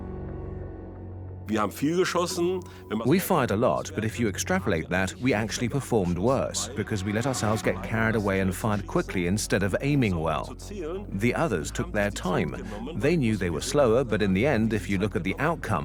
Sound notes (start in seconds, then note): 2.9 in German; 4.6 dubbed in English